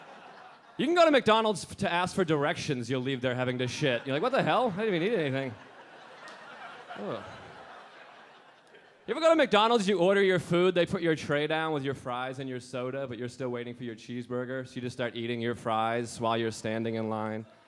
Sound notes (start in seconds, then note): 0.0 a few audience members laughing; 3.6 audience laughing